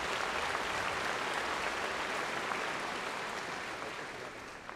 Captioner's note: applause